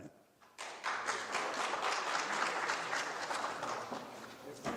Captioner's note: applause